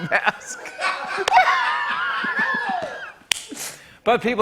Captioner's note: laughter; clap